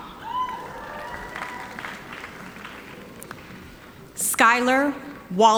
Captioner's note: audience applauding